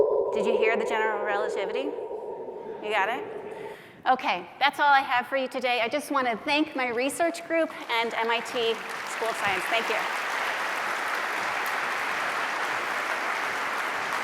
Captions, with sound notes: Did you hear the general relativity? You got it? OK, that's all I have for you today. I just want to thank my research group and MIT School of Science. Thank you. [APPLAUSE]